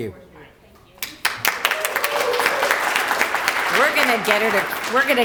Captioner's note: applause